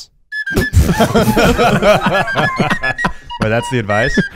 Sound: laughing

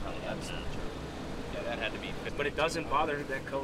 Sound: machine whirs

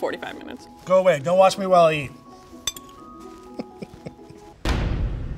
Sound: laughs; dramatic boom

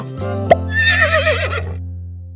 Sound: neighing

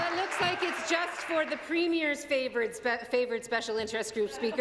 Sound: applause

